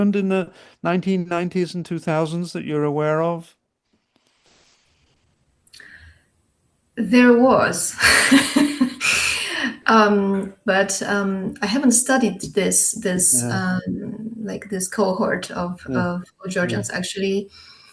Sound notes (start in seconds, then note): 8.0 laughs